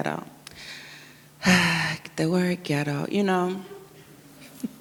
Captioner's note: sighs; chuckles & audience murmurs